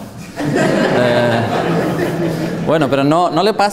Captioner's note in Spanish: risas